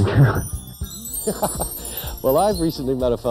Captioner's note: chuckles